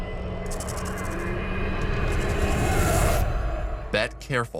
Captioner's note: electronics hum; rattlesnake rattles